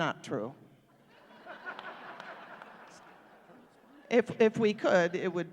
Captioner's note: laughter